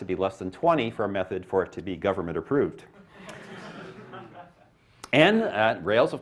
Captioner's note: laughter